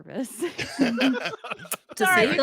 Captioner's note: laughs